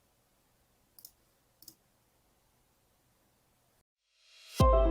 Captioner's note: mouse clicking